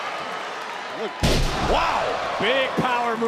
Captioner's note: body slams